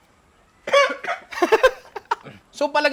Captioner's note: coughs